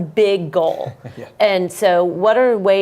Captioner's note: laugh